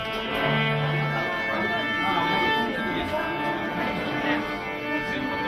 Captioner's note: people chattering faintly